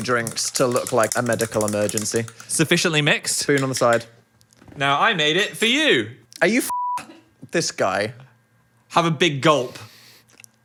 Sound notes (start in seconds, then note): 6.7 beep